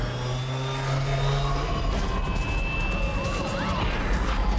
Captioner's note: people screaming